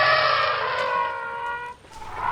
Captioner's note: trumpeting